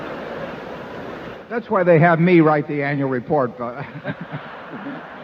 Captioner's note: laughter